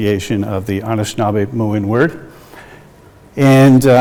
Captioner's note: speaks in indigenous language